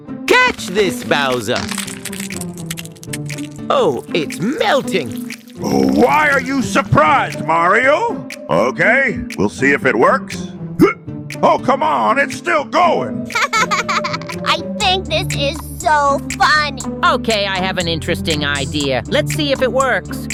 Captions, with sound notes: Catch this, Bowser! Oh, it's melting! Why are you surprised, Mario? Ok We'll see if it works. (Hiccups) Oh come on, it's still going! (Junior Laughing) I think this is so funny! Ok..I have an interesting idea. Let's see if it works.